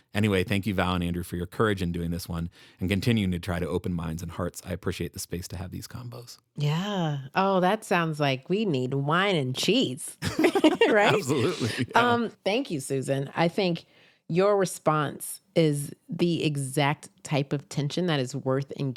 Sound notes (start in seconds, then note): 10.2 laughing